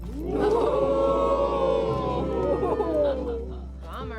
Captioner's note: crowd jeering